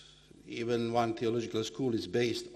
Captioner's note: speaking foreign language